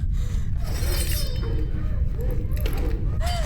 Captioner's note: metal scrapes; Abby pants